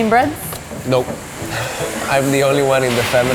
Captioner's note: laughs